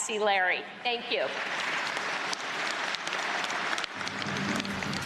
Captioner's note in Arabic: تصفيق